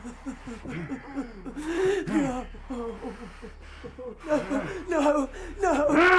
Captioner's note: Sue whimpering; sobs; assailants grunting